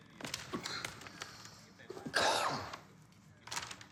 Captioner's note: Dobbs coughing